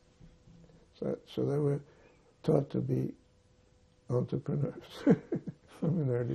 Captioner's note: laughing